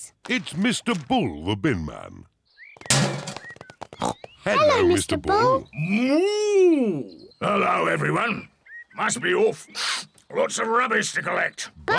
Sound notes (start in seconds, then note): 2.9 bin clangs; 3.5 snorts